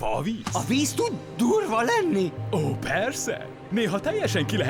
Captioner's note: none